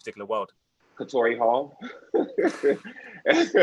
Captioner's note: Nicco Annan laughs